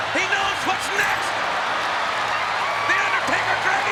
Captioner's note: audience cheers